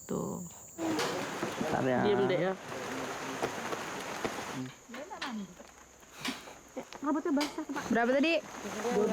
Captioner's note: speaking in foreign language